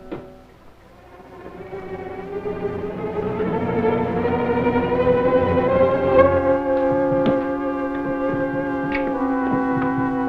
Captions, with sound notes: - You are such a beauty to be left alone. (speaking in foreign language) (suspenseful music)